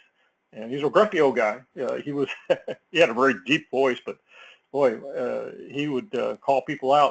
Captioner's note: laugh